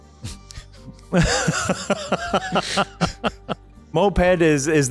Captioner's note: laughter